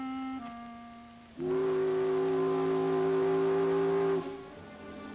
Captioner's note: soft suspenseful music; ship horn blows; soft suspenseful music